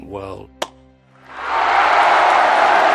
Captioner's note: SPECTATORS CHEERlNG